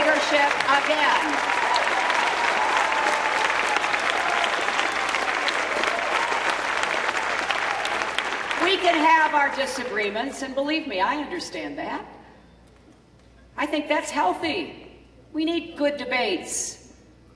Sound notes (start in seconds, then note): 5.3 cheering